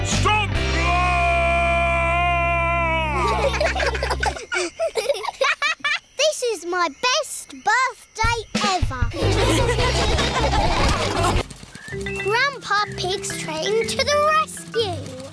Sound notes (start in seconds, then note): 3.1 children giggle; 9.1 all laughing